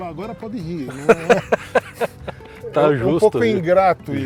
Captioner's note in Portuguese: risos